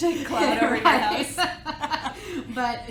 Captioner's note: laughs